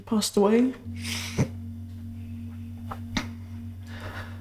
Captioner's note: sobs